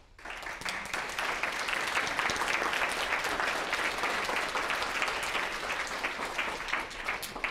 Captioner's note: applause